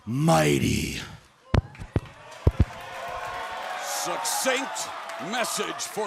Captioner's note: crowd cheering